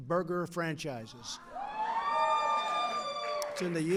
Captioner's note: applause